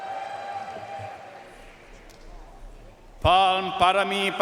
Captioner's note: audience cheering and applauding